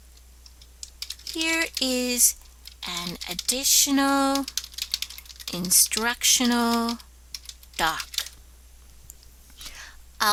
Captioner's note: typing